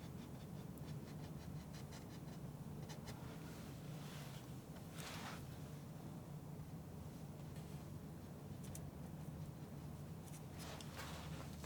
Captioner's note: scratching